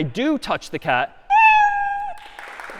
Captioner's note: میو زدن